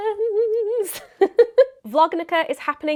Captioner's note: chuckles